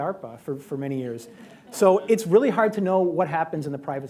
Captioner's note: laughter